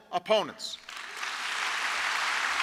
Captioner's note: applause